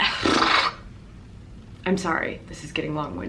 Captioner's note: blubbers